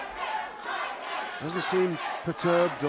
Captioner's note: crowd cheering